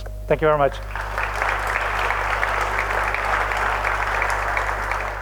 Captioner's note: applause